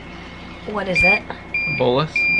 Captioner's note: beeping